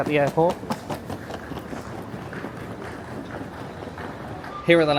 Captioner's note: luggage clacking